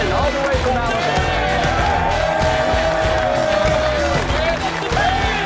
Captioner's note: cheering